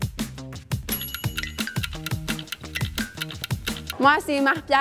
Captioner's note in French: cliquetis des aiguilles